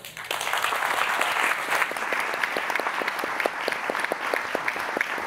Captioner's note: audience applauding